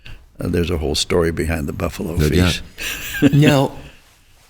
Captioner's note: chuckles